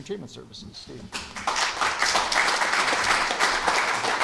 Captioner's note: applause